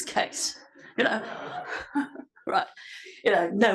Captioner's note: laugh